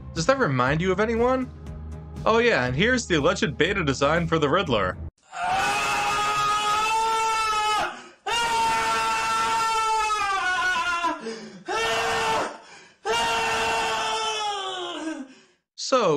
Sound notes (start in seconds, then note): 11.1 screams